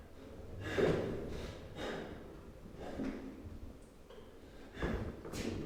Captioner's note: Carling breathes heavily